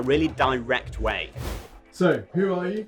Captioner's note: abrupt swooshing